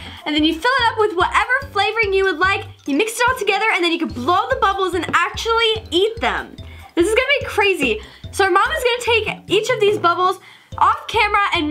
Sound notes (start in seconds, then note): none